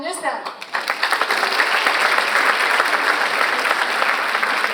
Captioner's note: audience applauds